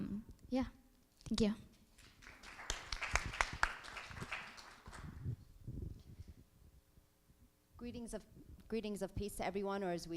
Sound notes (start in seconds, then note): 2.0 applause